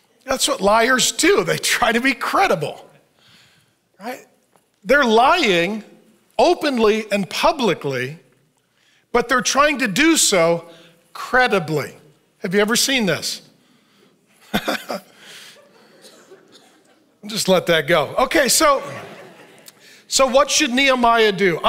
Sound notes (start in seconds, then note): 14.5 laughs; 18.7 audience laughs